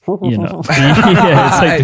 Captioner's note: laughter